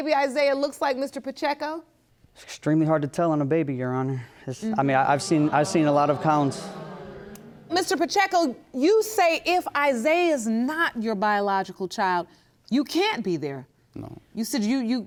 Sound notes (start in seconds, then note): 4.7 stammers; 5.2 audience groaning